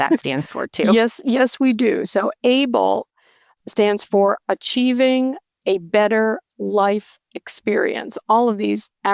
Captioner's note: chuckling